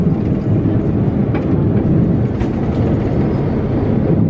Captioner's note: plane rumbling softly